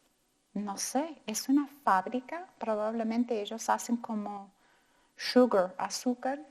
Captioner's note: speaking in foreign language